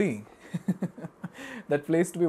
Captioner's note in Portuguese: risos